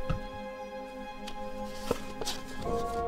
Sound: none

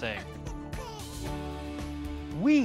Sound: soft baby cry

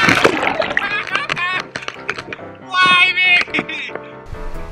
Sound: laughs

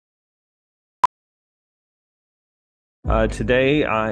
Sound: screen beeps

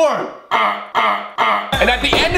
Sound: gagging

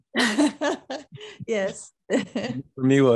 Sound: laughs

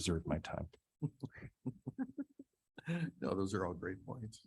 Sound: people chuckling

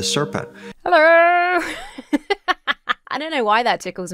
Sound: laughs

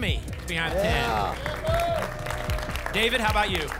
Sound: applause and cheering

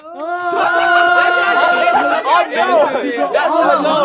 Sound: all laughing

